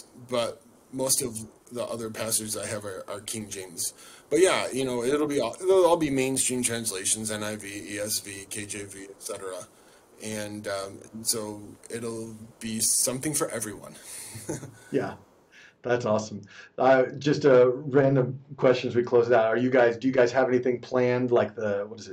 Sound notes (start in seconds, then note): 14.0 chuckles